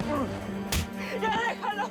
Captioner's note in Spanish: puñetazo